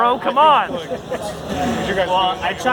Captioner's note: laughs